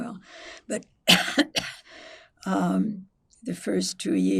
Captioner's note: coughing